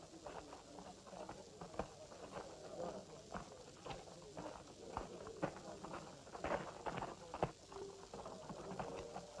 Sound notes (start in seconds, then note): 1.5 crowd murmuring